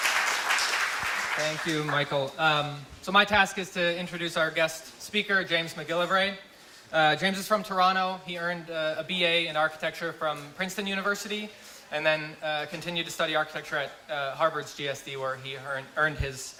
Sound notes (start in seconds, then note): 0.0 applause